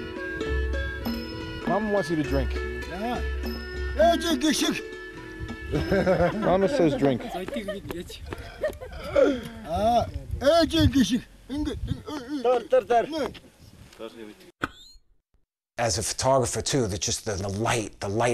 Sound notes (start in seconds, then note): 4.7 speaking mongolian; 5.7 laughter; 11.0 speaking mongolian